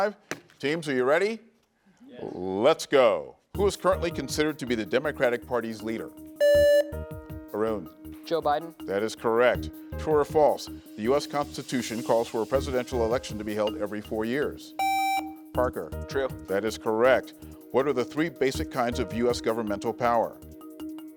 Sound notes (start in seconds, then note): 6.4 buzzer beeps; 14.8 buzzer beeps; 20.9 tense music